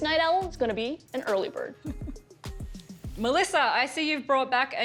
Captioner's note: laughter